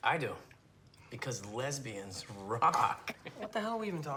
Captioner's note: laughs